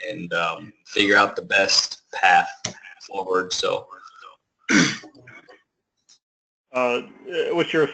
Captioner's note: cough